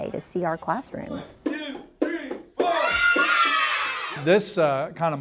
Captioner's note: screaming